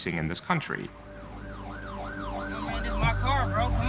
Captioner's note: siren blaring